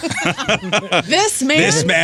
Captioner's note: laughing